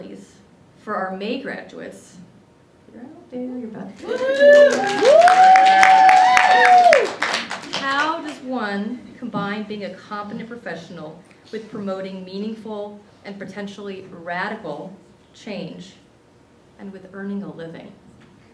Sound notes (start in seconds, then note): 6.8 cheering